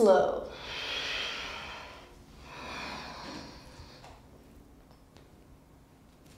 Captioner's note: heavy breathing